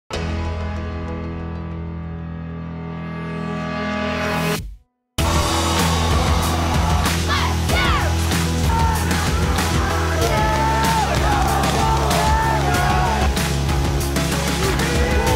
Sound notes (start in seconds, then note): 0.4 upbeat music; 5.6 cheering; 7.5 cheerleaders; 9.0 cheering